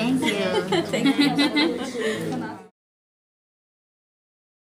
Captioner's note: women chuckle